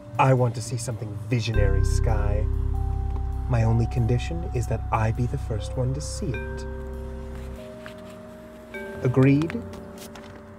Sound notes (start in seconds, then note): none